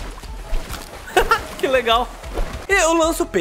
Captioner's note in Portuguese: risos